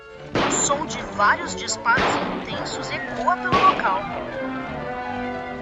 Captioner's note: gunshots